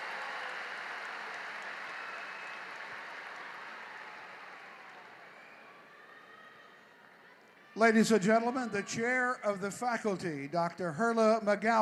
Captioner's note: cheering and applause